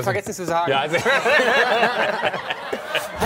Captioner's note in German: Gelächter